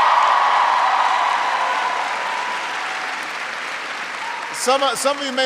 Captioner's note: applause